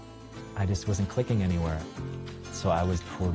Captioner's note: none